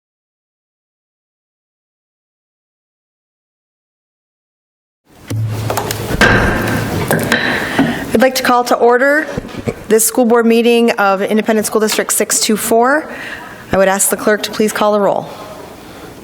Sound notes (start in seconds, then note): 5.3 gavel tapping